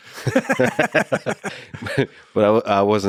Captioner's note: both laughing